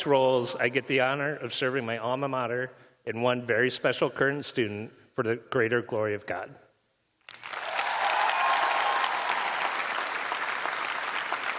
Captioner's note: cheers and applause